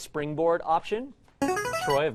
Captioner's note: player buzzer